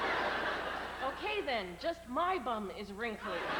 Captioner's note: laughter; howling laughter